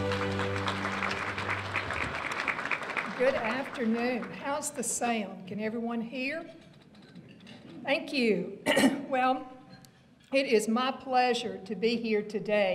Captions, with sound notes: (applause) - Good afternoon! How's the sound, can everyone hear? Thank you! (clears throat) Well, it is my pleasure to be here today